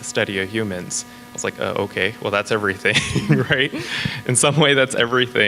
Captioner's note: laughs